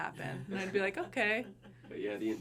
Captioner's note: people laughing